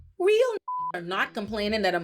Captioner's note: beep